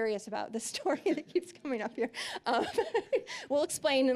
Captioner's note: laughing